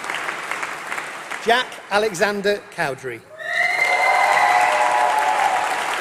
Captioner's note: applause